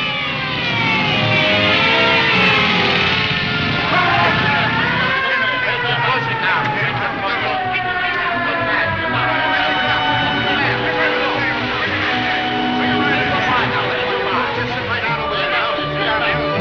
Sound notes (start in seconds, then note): 0.3 sirens blaring; 4.4 crowd chattering